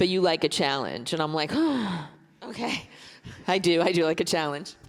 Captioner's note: sighs